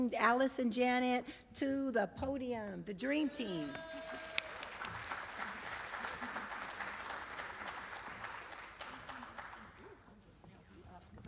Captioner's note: applause